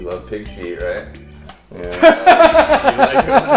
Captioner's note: laughter